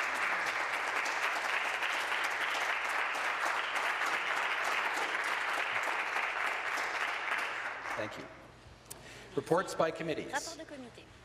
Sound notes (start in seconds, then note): 3.7 applause